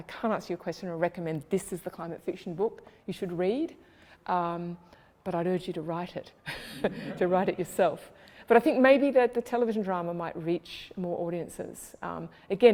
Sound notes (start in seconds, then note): 6.5 laughs